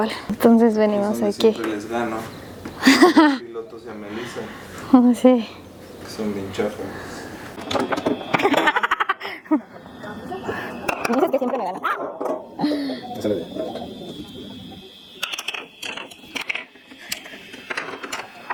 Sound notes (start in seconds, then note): 6.8 laughs